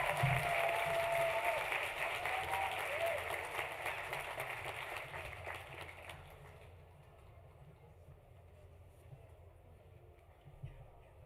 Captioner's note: applause